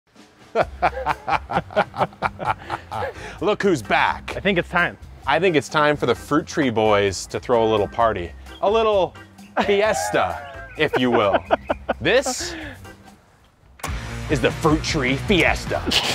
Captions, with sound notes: (both laughing) - Look, who's back. - I think it's time. - I think it's time for the fruit tree boys to throw a little party, a little Fiesta. (laughing) If you will. This is the fruit tree Fiesta.